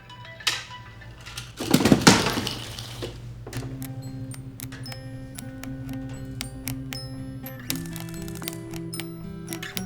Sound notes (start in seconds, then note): 3.9 banging; 6.0 gentle music